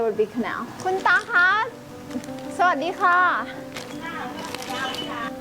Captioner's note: speaking thai